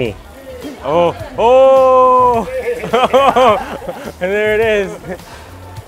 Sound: laughing

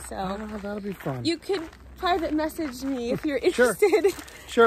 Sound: laughs

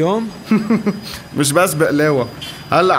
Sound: chuckles

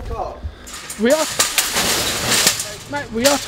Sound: crashes

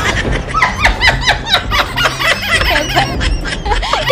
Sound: laughing

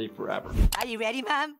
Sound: background mouse clicking

